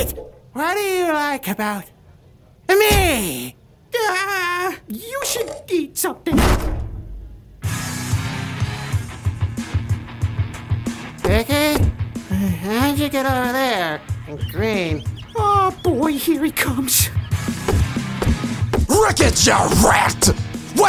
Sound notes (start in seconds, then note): 6.3 SOMEONE kicks the door in